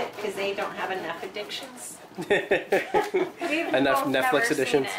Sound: laughs

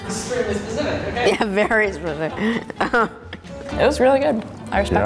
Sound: laughs

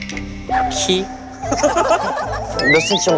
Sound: laughter

